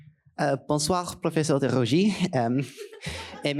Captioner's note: speaking in French